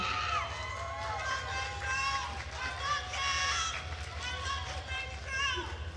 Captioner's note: attendees cheering and applauding